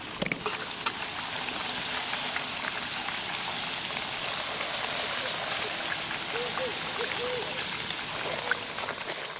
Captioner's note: sizzling fries